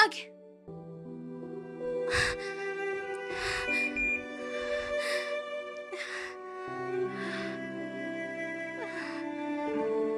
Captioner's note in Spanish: exhalación